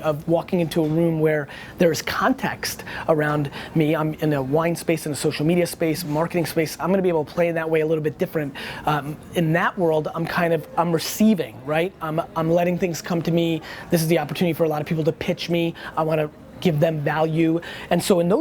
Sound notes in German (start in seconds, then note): none